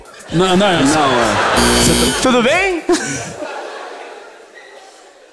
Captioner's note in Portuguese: campainha